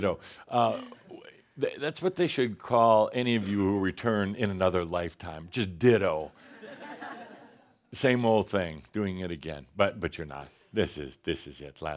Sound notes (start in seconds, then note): 6.6 more laughter